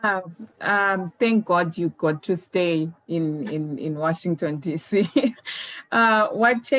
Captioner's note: laughs